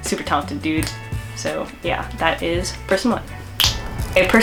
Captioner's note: snaps; snaps again